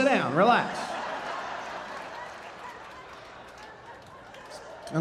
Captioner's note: audience laughing